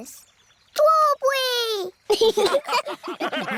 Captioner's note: laughter